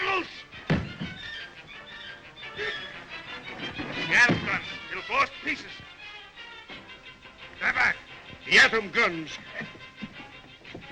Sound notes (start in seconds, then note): 0.7 ramp thuds; 2.7 guard exclaims; 10.6 suspenseful music